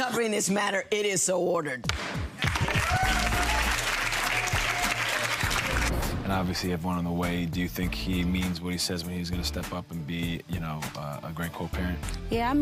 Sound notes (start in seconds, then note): 2.2 audience applauds; 2.5 upbeat music